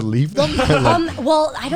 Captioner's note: guys laughing